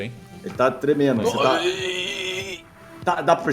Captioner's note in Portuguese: Gemidos